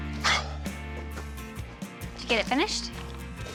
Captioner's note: sighs